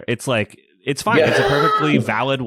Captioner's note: laughs